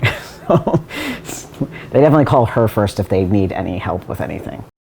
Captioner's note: laughs